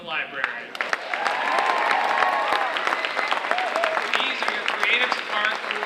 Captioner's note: audience cheering and applauding